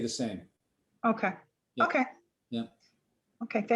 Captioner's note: woman Speaking